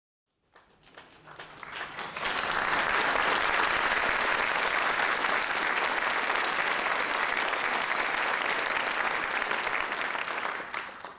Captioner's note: applause